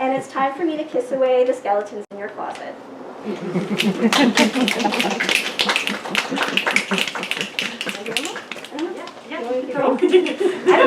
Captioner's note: laughter, snaps and applause